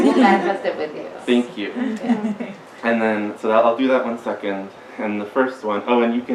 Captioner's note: audience giggles; giggles